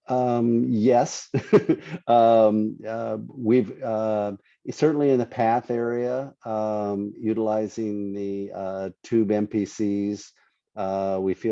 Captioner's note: laughs